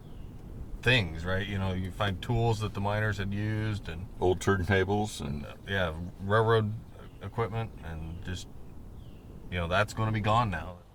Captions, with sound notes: You find tools that the miners had used. - [Voiceover] Old turn tables - [Voiceover] Yeah, railroad equipment and just, that's gonna be gone now.